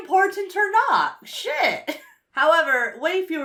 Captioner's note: chuckles